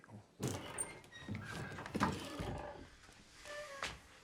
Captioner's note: door creaking